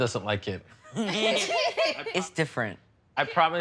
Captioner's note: laughter